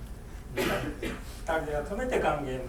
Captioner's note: coughing; speaking in foreign language